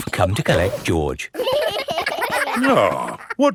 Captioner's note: giggling